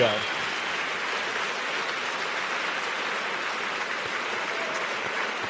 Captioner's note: audience cheers and applauds